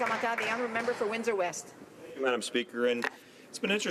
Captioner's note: some Applause